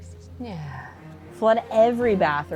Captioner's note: sighs